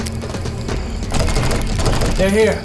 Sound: door shakes

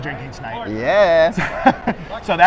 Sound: laughing

